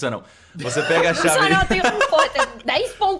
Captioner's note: laughs